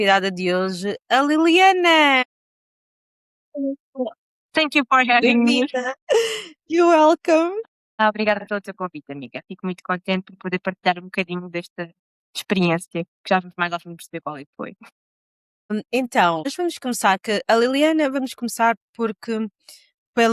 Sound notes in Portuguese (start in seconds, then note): 5.9 risadas; 6.4 suspirando